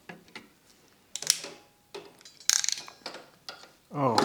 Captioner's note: wires click